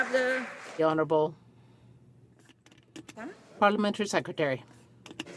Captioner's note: some Applause